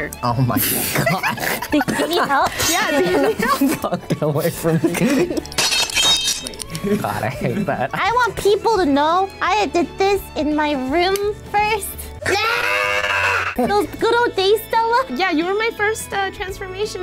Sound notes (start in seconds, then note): 12.2 screams